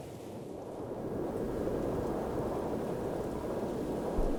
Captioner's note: wind swooshing